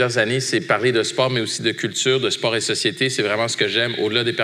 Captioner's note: none